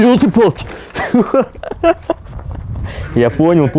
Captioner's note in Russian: смех